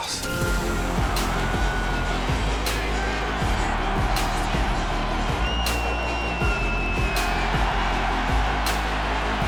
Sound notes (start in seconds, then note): 0.5 intense upbeat music; 6.2 fans cheering